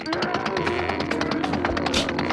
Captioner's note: muffled yelling